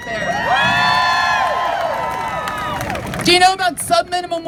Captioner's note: crowd cheers